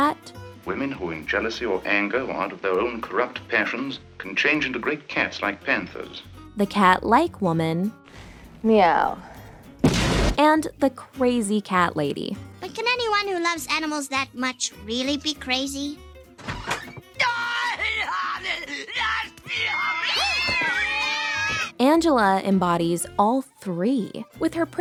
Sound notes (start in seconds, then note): 17.2 screaming; 17.6 meowing